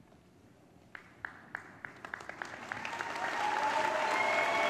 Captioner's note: applause